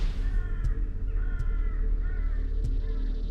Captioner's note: crow caws